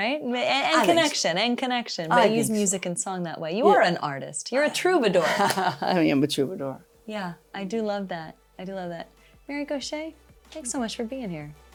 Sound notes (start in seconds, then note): 5.0 laughs